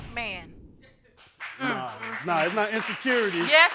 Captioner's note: crowd applauds